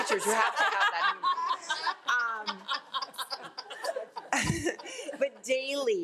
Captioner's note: all laugh